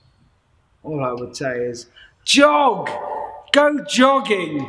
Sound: yells

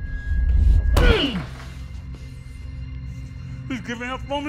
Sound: Casey grunting

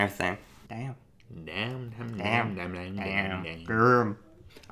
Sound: babbling

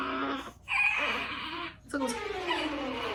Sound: waaaah

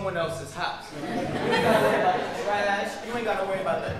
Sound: audience laughing

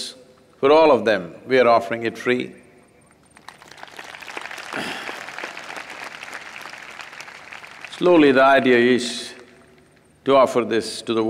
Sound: applause

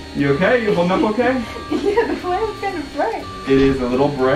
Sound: giggling

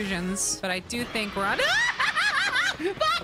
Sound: yelling

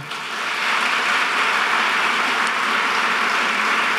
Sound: audience clapping

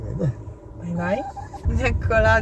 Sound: Joice cries

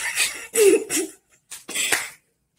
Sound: Teddy Laughing

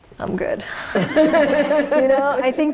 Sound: laughs

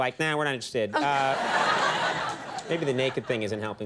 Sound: audience laughing

